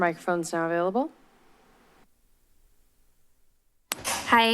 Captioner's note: silence